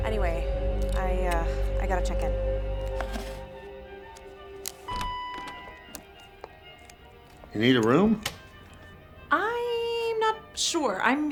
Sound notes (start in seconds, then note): 4.9 door bell dinging